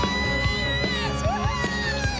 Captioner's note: screams